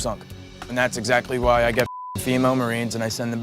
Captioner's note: beep